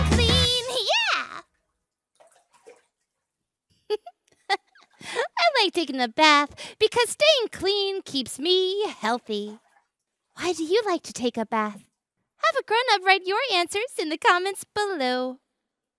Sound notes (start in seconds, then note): 3.8 giggles